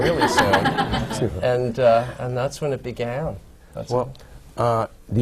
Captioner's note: laughter